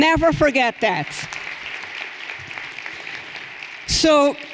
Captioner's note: everyone applauding